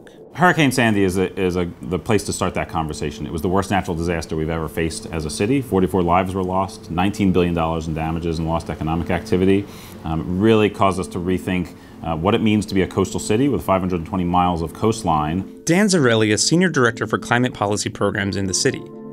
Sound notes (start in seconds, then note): 15.7 voiceover